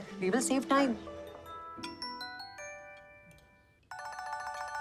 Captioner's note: phone ringing